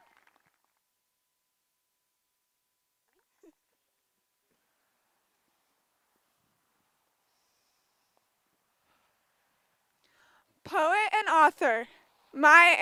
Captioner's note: applause